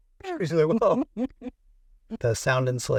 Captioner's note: both laughing